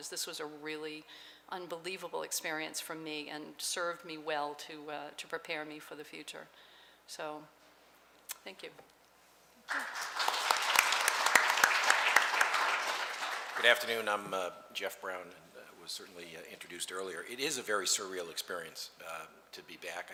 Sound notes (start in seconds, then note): 9.6 clapping